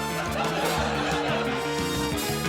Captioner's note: whistle bows; dramatic music